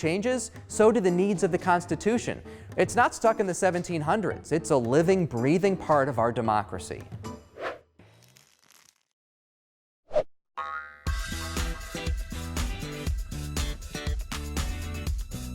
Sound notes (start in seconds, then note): 7.7 air whooshes; 10.8 spring bounces; 11.0 upbeat music